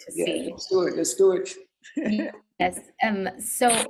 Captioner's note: laughs